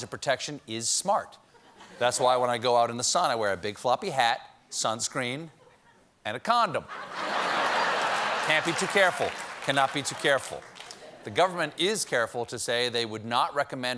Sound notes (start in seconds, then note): 6.8 laughter; 7.4 applause